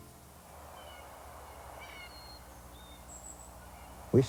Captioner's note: nature sounds